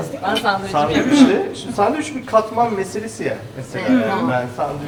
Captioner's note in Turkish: kahkaha; boğazını temizler